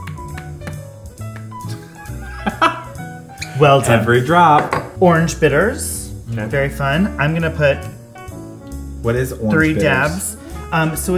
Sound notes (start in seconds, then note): 0.2 jazz music; 1.8 laughs